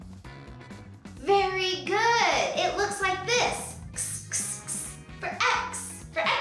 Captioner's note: hissing